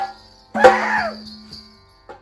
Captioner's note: drums and clash cymbals; screams